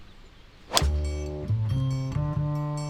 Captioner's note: thwack